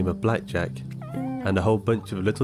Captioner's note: cat meows; fowls cackling